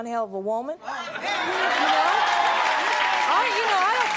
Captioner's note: applause